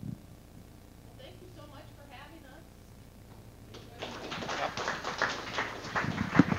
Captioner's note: audience applause